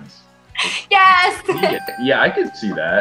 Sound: bell dings

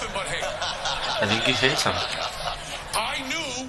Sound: laughs

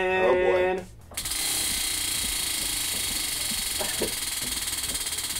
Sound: wheel clicking

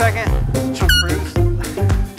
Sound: horn squeaks

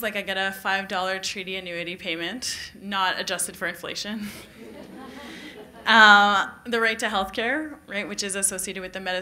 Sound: laughter

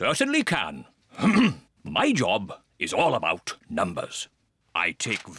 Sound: clears throat

